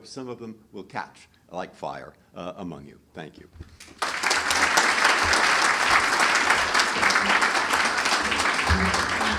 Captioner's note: applause